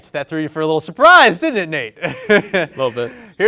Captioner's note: laughs